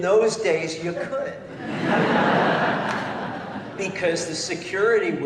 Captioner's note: laughter